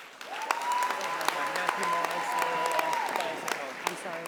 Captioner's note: audience applauding